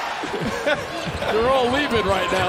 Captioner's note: laughter